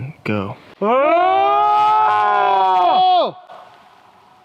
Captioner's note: both screaming